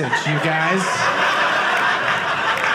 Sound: audience laughing

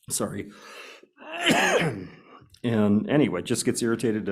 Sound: coughs

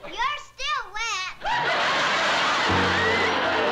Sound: laughter

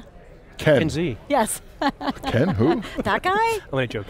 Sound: laughing

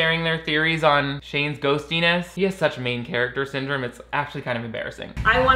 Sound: none

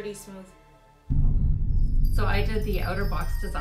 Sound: ominous music; scene whooshing

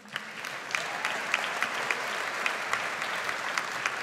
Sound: audience applauds

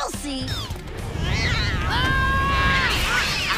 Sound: screeching; screaming; groaning

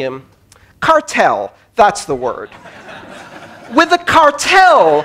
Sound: laughter

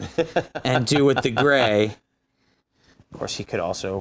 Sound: laughing

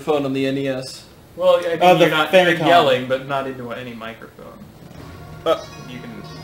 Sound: yelling

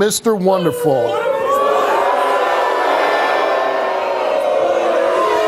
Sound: audience boos

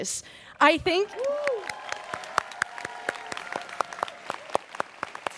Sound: students cheering

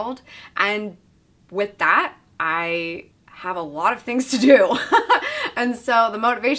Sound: laughs

